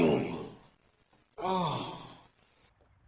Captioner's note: frustrated groan